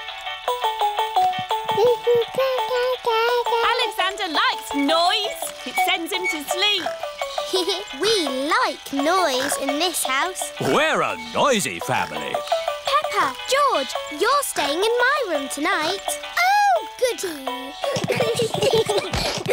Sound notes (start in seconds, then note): 0.2 mobile playing loud music; 1.2 cooing; 7.3 giggles; 17.8 all giggling